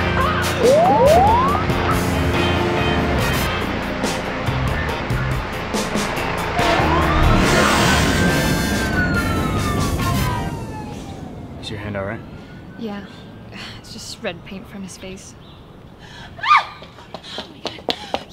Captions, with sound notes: [POLICE CHIRP] [POLICE SIREN BLARES] IS YOUR HAND ALRIGHT? YEAH, IT'S RED PAINT FROM HIS FACE. [CO-WORKER SCREAMS]